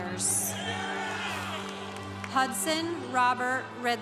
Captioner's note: congregation cheering